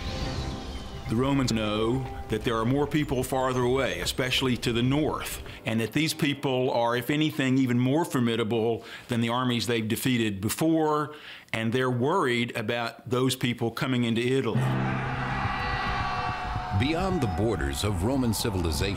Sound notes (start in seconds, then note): 14.8 battle cry